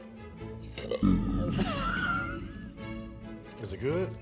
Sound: belches

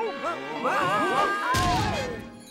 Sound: all screaming

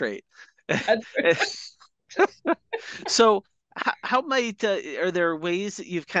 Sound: laughing

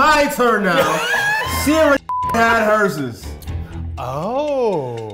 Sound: beep

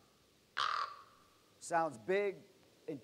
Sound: bird Sound

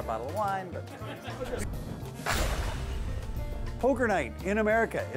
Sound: laughing; crashing

